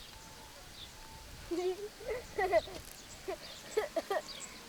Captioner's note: giggles